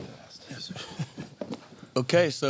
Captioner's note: laughing